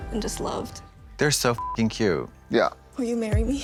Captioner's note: beep